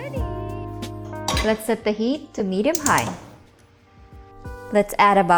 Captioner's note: pan thuds